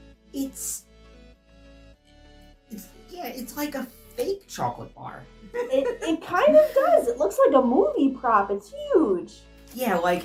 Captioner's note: laughing